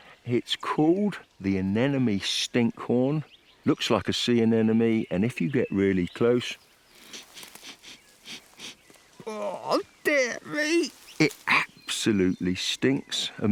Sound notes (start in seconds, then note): 7.0 sniffs